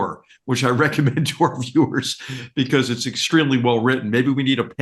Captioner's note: laugh